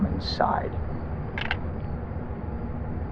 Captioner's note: gun clicks